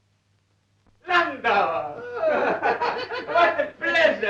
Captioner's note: laughing